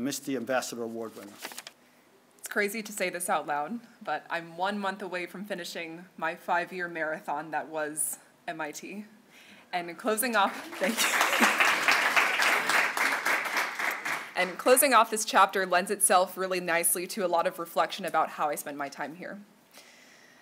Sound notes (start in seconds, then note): 10.4 applause; 10.6 giggles